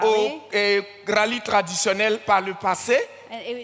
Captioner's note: continues in French